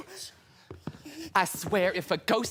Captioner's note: footsteps